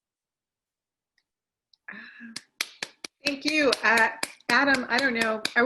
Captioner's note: applause